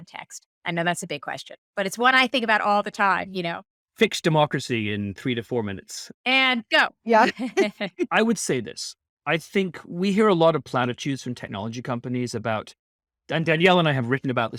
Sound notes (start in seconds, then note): 7.1 laughing